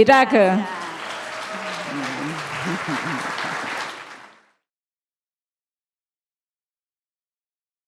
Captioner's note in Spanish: Aplausos